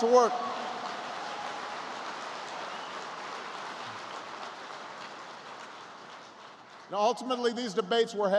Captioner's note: applause